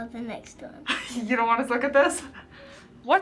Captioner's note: React chuckles